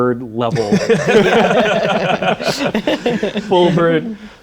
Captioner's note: laughter